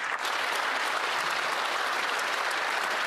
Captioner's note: cheering and Applause